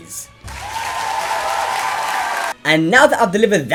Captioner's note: mass applause